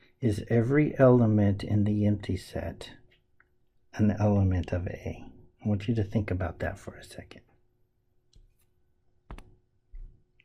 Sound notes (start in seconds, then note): none